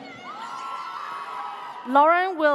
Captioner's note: audience cheers